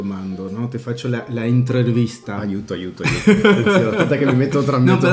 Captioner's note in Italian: risate